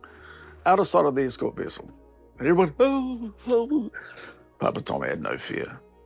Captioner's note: whimpers